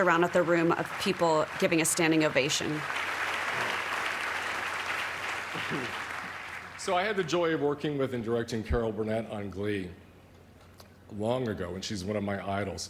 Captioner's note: applause